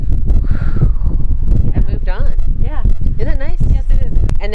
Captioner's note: exhales